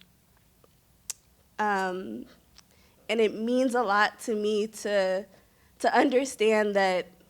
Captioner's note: clicks tongue